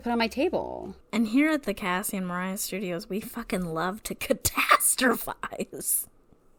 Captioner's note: laughs